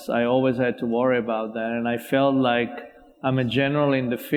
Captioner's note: none